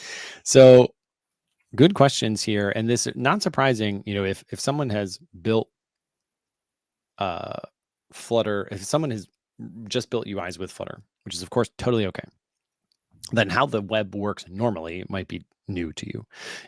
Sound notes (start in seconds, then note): none